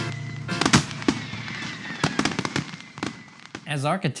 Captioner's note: fireworks exploding